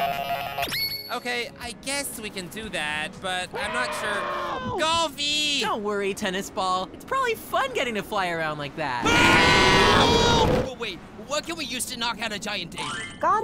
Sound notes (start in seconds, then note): 3.5 distant screaming for help; 9.0 screaming for help